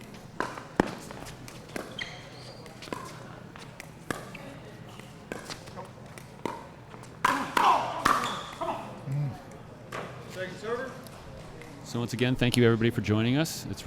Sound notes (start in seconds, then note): 0.0 shoes squeaking; 0.1 ball being hit; 7.1 ball being smacked; 7.2 players grunting